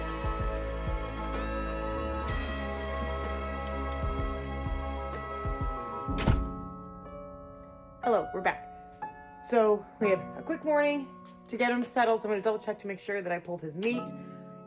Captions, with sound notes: [Door closes] Hello, we're back. So, we have a quick morning to get him settled. So, I'm going to double check to make sure that I pulled his meat.